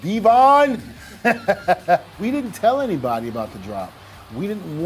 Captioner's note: laugh